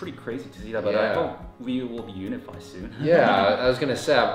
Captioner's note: laughing